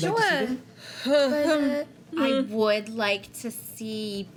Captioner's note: uneasy laughing